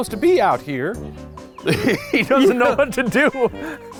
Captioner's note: chuckles